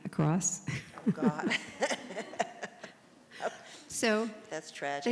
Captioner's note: laugh